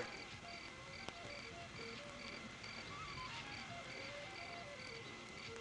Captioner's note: crickets chirping